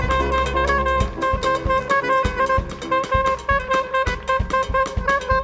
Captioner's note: audience applauding